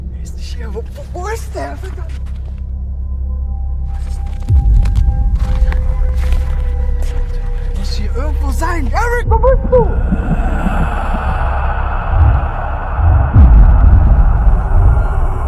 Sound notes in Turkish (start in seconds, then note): 10.5 ürkütücü sesler